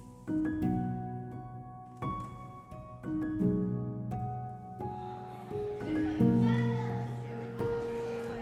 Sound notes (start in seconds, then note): 5.0 guests chattering